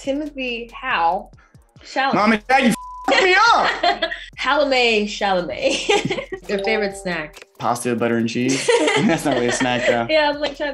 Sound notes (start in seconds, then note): 3.6 laughing; 8.5 laughing